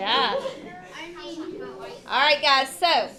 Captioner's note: students chattering